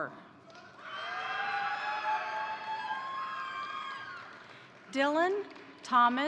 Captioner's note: crowd cheering; crowd applauding